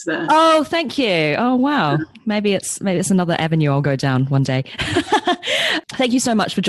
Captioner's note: laughs